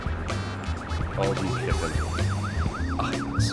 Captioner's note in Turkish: Polis siren sesi